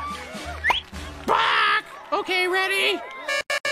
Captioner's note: squawking